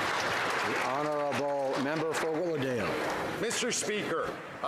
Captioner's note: some Applause